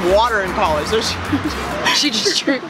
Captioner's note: chuckle